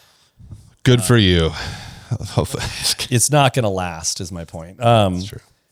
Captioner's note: laughs